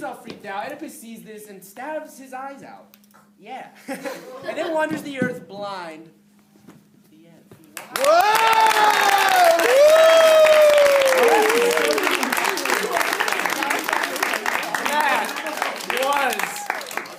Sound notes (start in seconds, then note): 8.4 applause